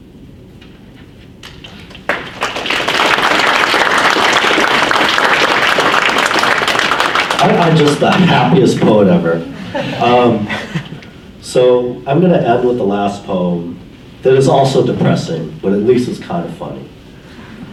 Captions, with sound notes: (audience applauds) Aren't I just the happiest poet ever? I'm gonna end with the last poem that it's also depressing, but at least it's kind of funny.